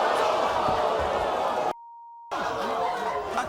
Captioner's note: booing